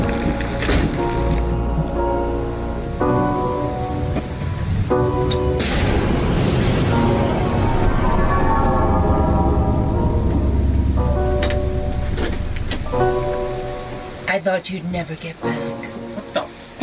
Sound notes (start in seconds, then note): 0.6 door shutting; 6.0 ominous music